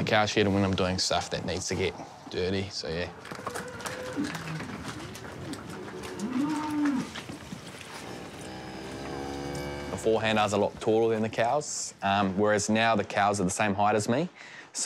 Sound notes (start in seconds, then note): 3.4 cows moo; 7.8 cow lows